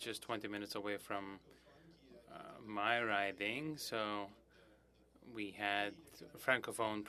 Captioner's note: speaking French